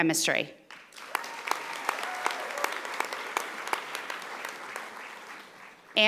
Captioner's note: audience applauding